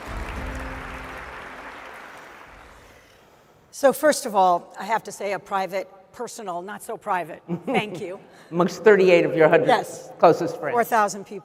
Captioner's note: applause